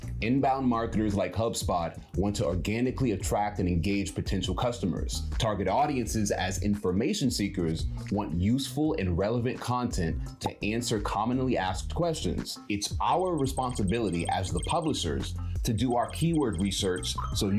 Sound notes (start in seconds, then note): 10.5 bubble pops; 13.3 beeping; 15.7 digital chiming